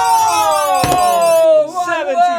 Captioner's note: hands thud